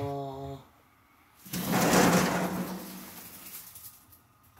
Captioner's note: the sound of opening the window